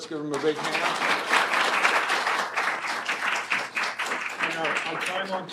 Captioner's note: applause